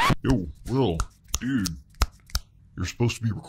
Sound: record scratching; fingers snapping

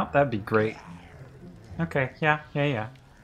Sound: zombie growls

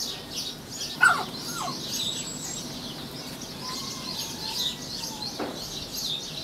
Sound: birds chirping; dog whining

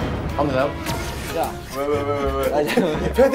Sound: burst into laughter

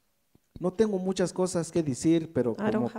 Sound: speaks in foreign language

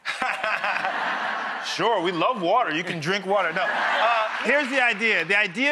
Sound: laughs

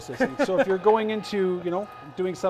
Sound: laughs

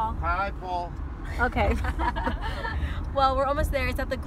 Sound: laughter

